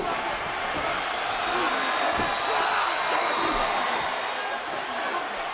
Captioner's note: audience cheers